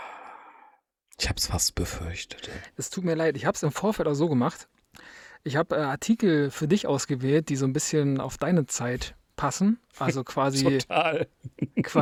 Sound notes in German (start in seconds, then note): 0.0 seufzt